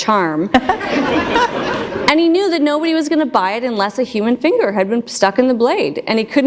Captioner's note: laughter